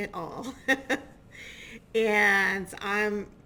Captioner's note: chuckling